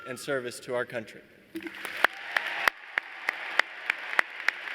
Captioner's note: applause